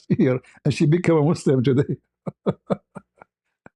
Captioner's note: ketawa